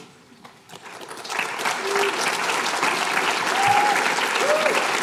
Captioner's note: applause